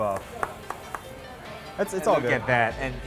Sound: clapping

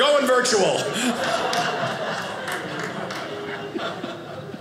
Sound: audience laughing

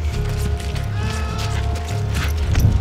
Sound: Tristan screaming

